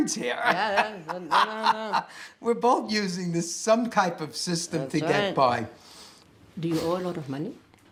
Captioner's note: laughs